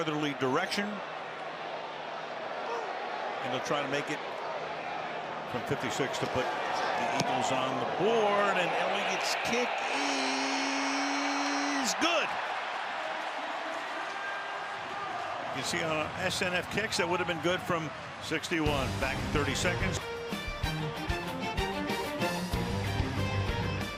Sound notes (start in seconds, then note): 13.0 cheers; 20.4 theme music